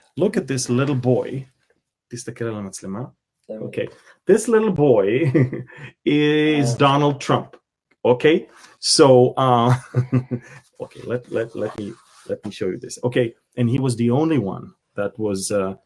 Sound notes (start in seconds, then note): 1.8 speaking Hebrew